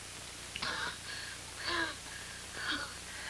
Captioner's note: wheezing lessens